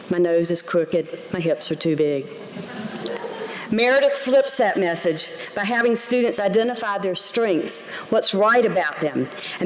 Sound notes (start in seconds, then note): 2.5 laughter